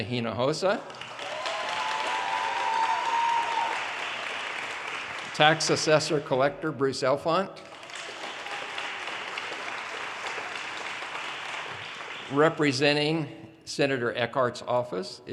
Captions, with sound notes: Our state Representative, Gina Hinojosa. (audience cheers and applause) Tax Assessor/Collector, Bruce Elfant. (audience applause)